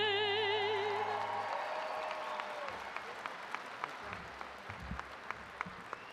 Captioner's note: attendees cheering and applauding